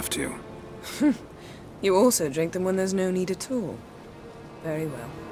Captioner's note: chuckle